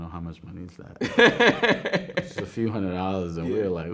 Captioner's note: man laughing